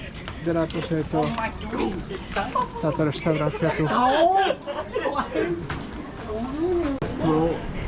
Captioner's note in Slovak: smiech